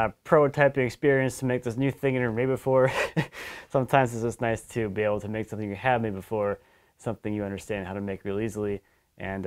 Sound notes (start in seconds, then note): 2.8 chuckles